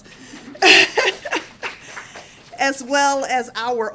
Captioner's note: applause